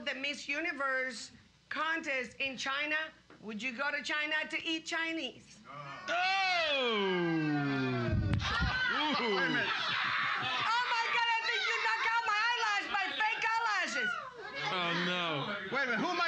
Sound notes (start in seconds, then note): 8.6 audience screaming; 15.0 audience shouting